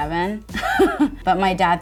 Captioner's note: laughing